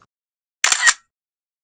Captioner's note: camera click